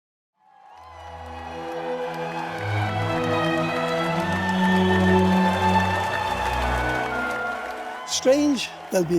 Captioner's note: introductory music; crowd applauding